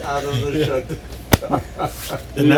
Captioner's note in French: rires